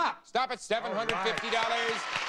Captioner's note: audience applauding